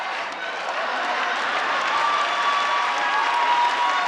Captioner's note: audience laughs